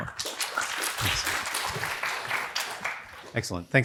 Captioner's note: applause